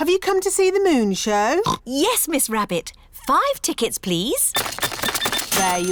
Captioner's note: oinks